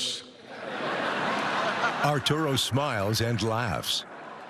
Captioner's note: laughter